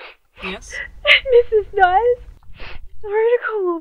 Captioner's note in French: En sanglot